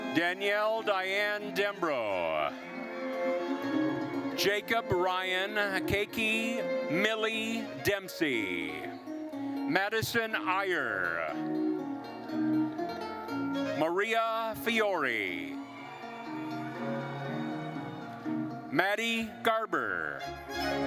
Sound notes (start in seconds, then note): 15.0 attendees cheering; 20.2 lively classical music continues